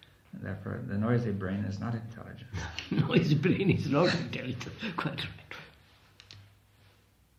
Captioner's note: laughs